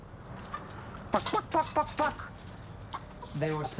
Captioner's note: clucks; chickens clucking